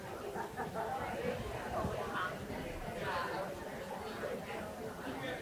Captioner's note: people chattering continues